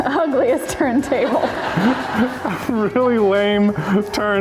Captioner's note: laugh